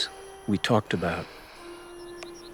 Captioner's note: sighs